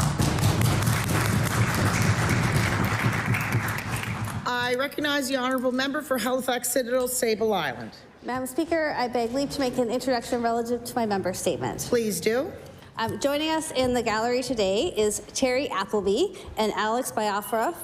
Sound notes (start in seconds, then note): 4.3 applause